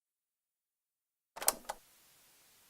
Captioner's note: cassette Noise